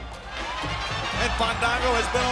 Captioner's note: audience cheers